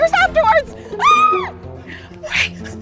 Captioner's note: yells excitedly